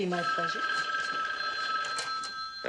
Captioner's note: phone rings